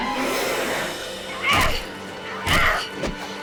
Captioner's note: Riley grunting; fleshy thuds; gun fires